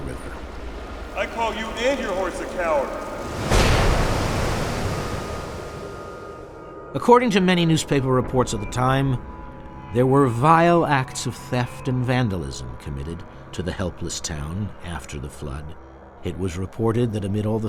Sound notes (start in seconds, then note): 2.2 voiceover